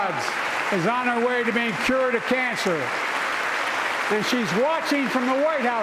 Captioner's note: applause